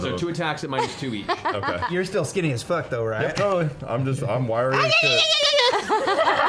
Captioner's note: high-pitched battle cry